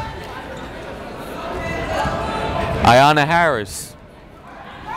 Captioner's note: yelling